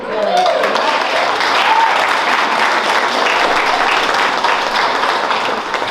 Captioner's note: applause